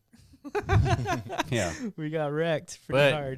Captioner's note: laughing